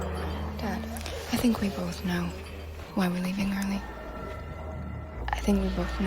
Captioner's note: none